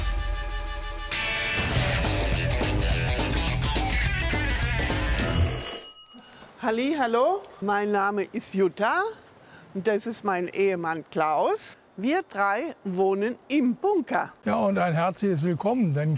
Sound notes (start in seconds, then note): 0.1 howling sirens; 3.5 wild rock music; 5.1 bells